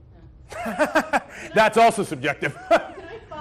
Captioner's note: laughs